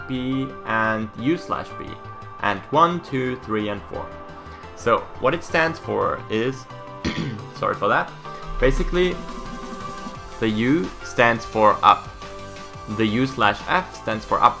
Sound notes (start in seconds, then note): 7.0 coughs